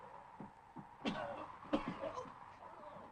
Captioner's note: Joss coughs